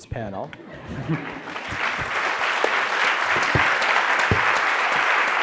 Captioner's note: audience laughs; audience applauds